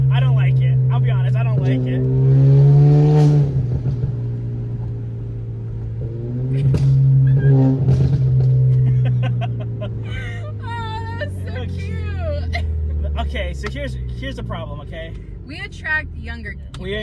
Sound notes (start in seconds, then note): 2.4 engine revving; 2.4 exhaust popping; 6.9 laughing